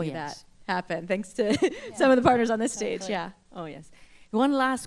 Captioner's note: laughter